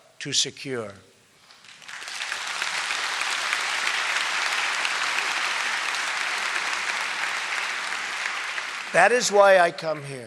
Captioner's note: applause